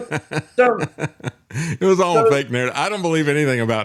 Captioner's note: laughing